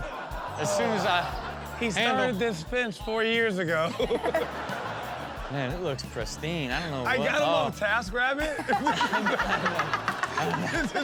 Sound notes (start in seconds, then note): 0.0 audience laughs; 3.8 laughs; 8.5 all laugh